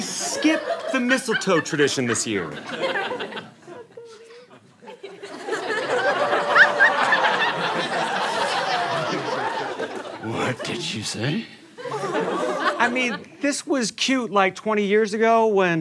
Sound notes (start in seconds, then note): 3.0 audience laughter